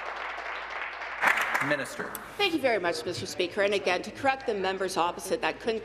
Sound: applause

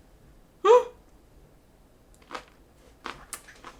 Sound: surprised

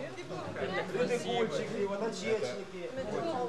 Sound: russian

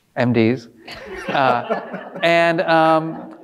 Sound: audience laughing

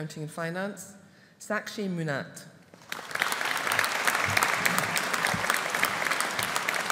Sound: audience applauding

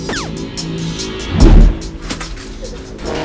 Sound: tense music playing; footsteps

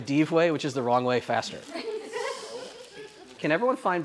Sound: laughter

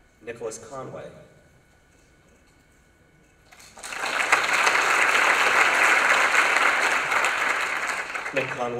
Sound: applause

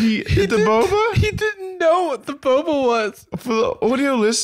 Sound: tearfully

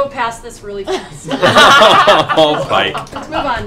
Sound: laughter

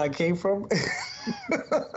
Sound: laughter

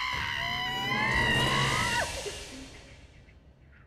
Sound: scream

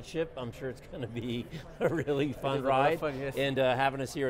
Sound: laughs

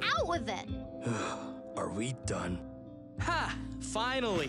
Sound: sighs

